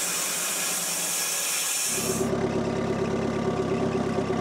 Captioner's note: saw whirring